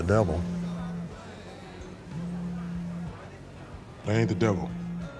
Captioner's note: phone buzzing